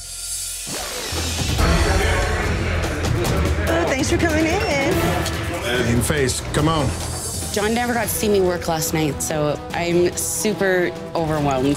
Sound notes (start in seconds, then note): 1.7 loud chatter